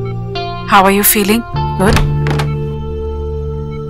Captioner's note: Door opens